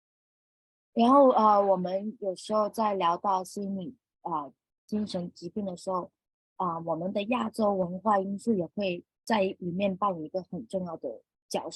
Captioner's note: speaking chinese